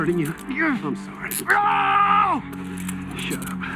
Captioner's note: screams